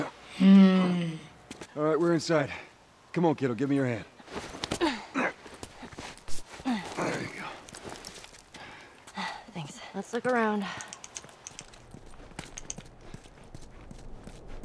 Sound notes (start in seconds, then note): 4.6 Joel and Ellie grunt; 8.6 Ellie huffs